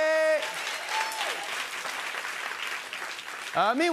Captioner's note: cheers and applause